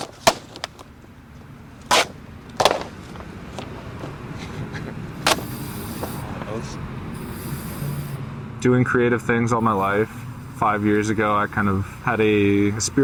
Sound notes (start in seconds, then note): 0.1 hitting and scraping; 5.3 paint sprays